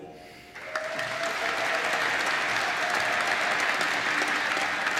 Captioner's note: applause